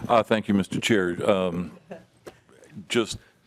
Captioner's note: laughter